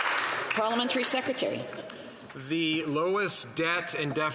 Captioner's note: some Applause